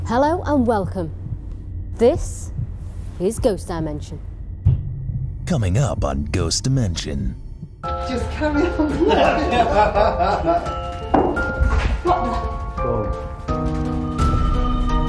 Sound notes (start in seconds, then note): 8.6 laughing; 11.1 knocking; 12.4 eerie music